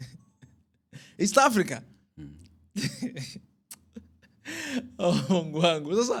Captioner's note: laughter